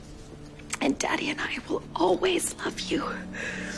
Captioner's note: voiceover